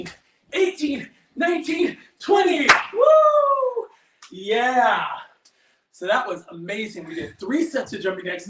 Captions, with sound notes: (claps) - Whoo! (hand slaps) Yeah! So that was amazing, we did three sets of jumping jacks.